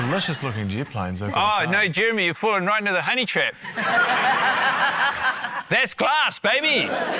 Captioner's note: laughter